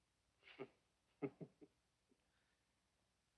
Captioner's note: chuckling